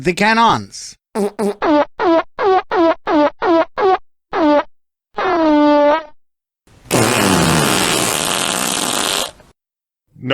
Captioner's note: rhythmic farts ending with a huge blast